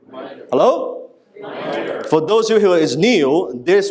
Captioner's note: crowd